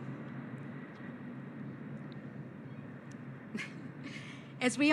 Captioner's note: sound of an airplane flying above